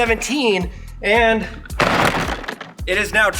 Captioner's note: bumper thumping